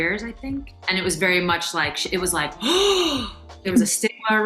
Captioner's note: gasping